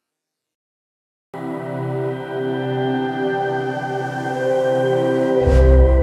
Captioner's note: speaks Te Reo Māori